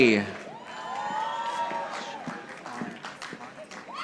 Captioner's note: audience applauding